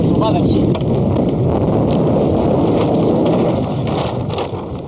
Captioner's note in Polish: silny wiatr